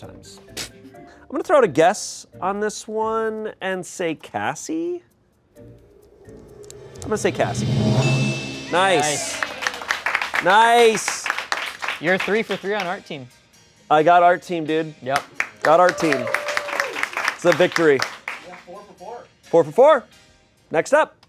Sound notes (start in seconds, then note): 6.6 bell dings; 10.8 audience applauds